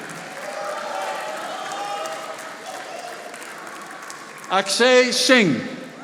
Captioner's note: audience applauding